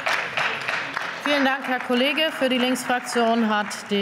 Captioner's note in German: Beifall